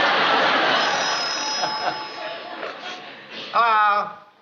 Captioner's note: phone rings